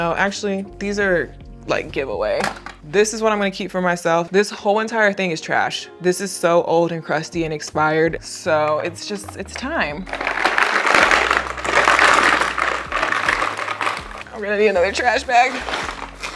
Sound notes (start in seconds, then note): 10.4 concealers clacking; 16.1 products clacking